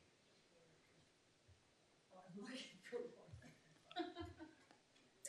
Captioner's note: woman speaks faintly; woman laughs